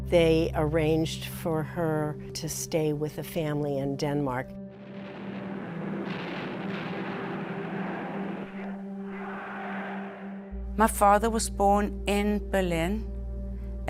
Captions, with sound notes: They arranged for her to stay with a family in Denmark. (bombs exploding) (people chanting) - My father was born in Berlin,